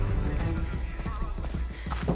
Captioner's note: announcement continues on loudspeaker